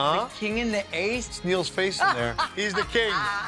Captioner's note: laughing; laughs